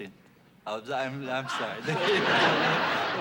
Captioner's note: laughter